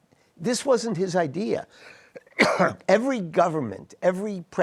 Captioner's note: coughs